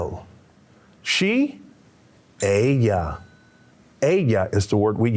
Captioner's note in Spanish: Señor hablando en un idioma extranjero; Señor hablando en lengua extranjera